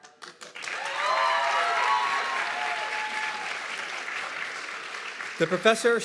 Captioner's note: audience clapping and cheering